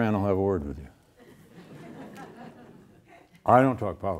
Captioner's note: audience laughing